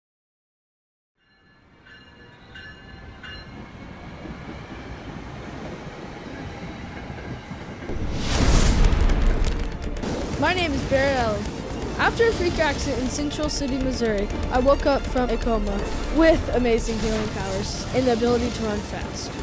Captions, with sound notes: [Train station sounds] [Male Voice] My name is Barry Allen. After a freak accident in Central City Missouri, I woke up from a coma with amazing healing powers and the ability to run fast.